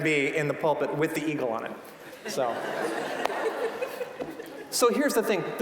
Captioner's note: audience laughing